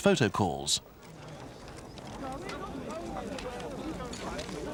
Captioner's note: people chattering